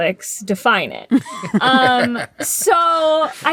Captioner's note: laughter